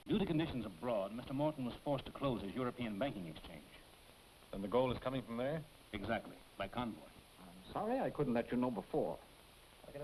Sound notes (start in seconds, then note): none